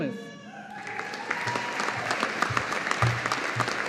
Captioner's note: audience applauding